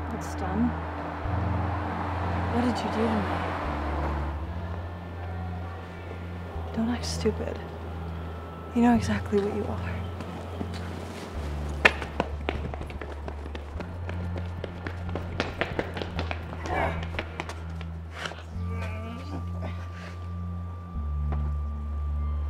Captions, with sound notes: - What's done, what did you do to me? - Don't act stupid, you know exactly what you are. (dramatic music) (groaning) (dramatic music)